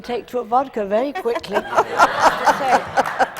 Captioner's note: laughter